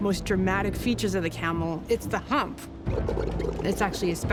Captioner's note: camel gurgles